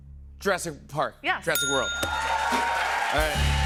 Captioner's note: ding; cheers and applause